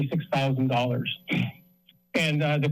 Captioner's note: clears throat